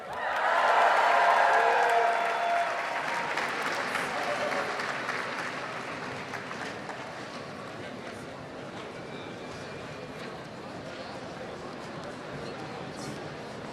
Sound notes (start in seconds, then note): 0.0 audience cheers and applauds; 5.3 audience murmurs